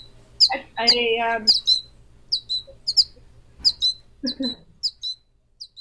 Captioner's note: chirping